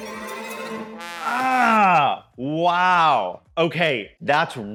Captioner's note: grunts